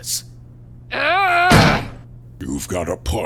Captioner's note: growl!